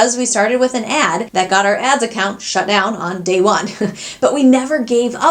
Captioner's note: laughs